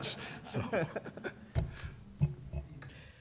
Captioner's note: laughter